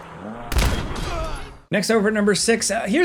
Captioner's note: player grunts